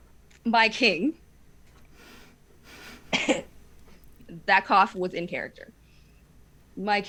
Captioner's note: coughs